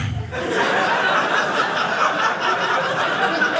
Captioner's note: audience laughing